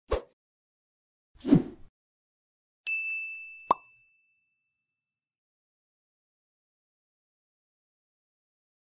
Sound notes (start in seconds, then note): 0.2 air whooshing; 2.9 bell dings; 3.8 bubble pops